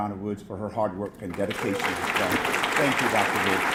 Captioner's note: audience clapping